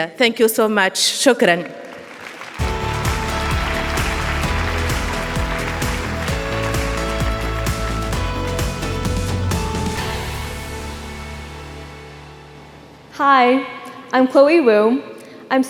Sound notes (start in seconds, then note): 1.6 speaking foreign language; 5.1 audience applauding; 5.1 upbeat music